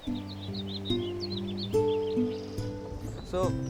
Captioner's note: birds chirping; soft music